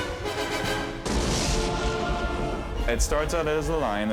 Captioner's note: thunderclap